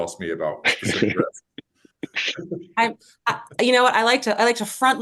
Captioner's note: laughter